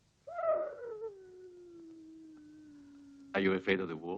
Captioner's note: wolf howling